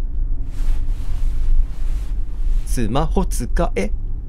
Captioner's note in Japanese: すれる音：ｽﾘ ｽﾘ…